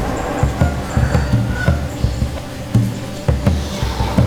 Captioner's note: rooster crows